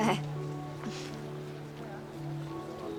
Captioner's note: clears throat